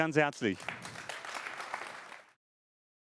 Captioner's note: applause